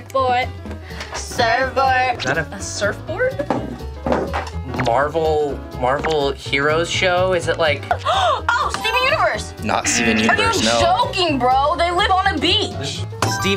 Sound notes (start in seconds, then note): 8.0 gasps; 10.9 buzzer buzzes